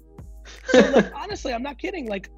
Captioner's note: laughs